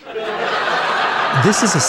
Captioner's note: audience laughing